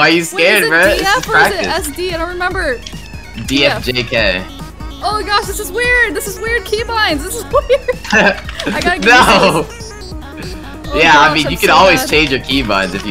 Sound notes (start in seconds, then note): 7.7 laughs